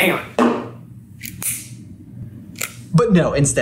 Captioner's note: lighter flickers